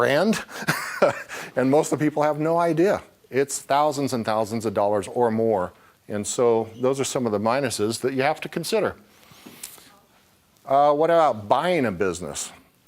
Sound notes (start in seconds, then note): 0.3 laughing